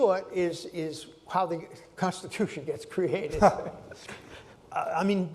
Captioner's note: laughter